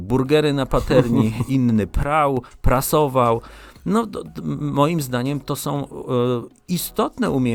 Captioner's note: śmiech